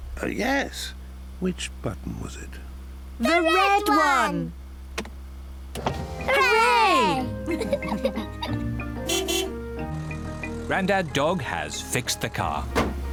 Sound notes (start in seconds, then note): 7.4 laughter; 8.7 horn honks